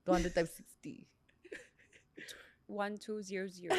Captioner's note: laughs